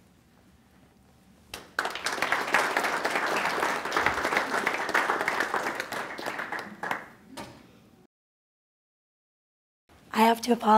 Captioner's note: applause